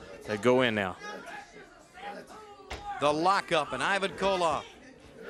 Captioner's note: crowd chatter